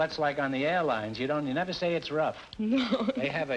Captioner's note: laughing